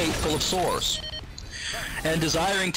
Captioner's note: loudly inhales